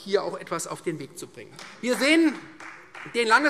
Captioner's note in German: Beifall